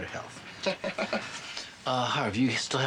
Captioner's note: chuckles